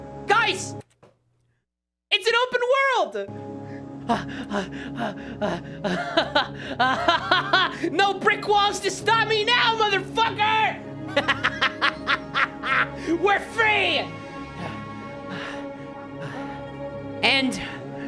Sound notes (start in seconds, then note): 4.1 laughs, pants; 11.0 laughing; 16.2 panting